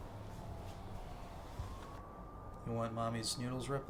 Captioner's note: siren wailing